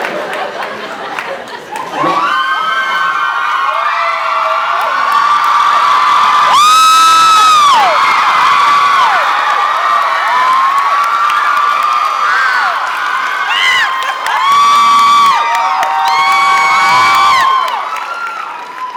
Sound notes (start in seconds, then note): 0.0 laughs, applauds; 2.0 screams